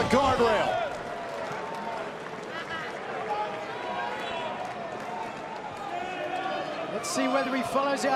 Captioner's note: crowd chatter